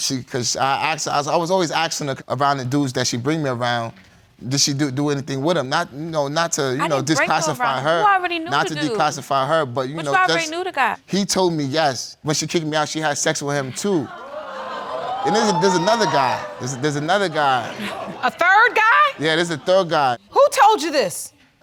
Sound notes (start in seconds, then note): 14.2 audience exclaims